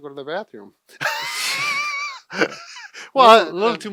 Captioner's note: wheezes